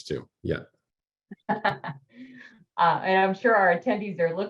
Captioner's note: laughter